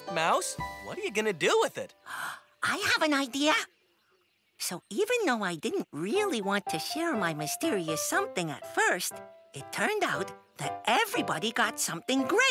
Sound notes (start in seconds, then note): 2.0 gasps